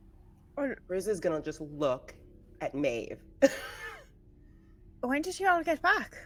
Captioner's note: chuckles